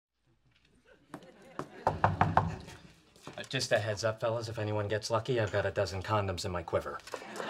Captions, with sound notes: (knocking on door) - Just a heads up, fellas, if anyone gets lucky, I've got a dozen condoms in my quiver.